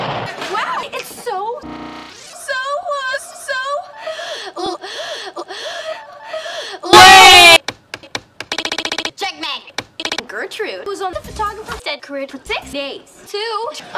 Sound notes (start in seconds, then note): 0.0 explosion; 4.8 gasp; 4.9 backward gasp; 6.2 gasp; 7.6 tippity tap on the steering wheel